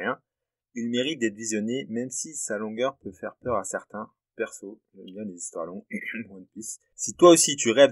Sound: cough

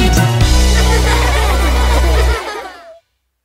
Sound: laughter

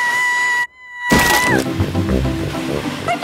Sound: screaming

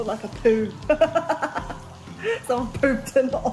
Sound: laughs

